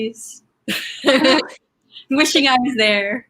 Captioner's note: laughing